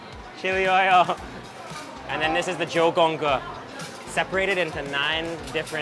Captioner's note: speaks in a foreign language